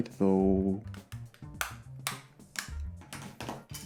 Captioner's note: shell popping